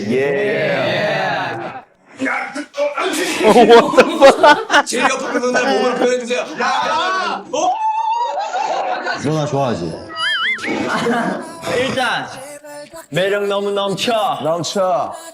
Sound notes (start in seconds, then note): 3.1 panics and laughs; 7.5 shouts; 10.9 laughs